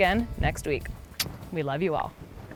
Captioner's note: smooches